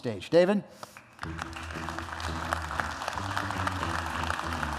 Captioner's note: applause